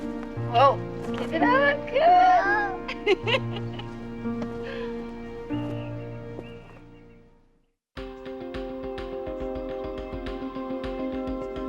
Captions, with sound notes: Whoa. Doesn't that look good? - Whoa. (Mary laughing) (suspenseful music)